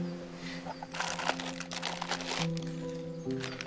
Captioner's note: wrapper crinkling